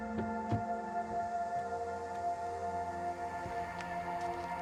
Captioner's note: car door clicks